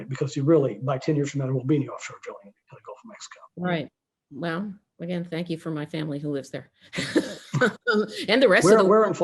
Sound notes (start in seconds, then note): 7.0 chuckles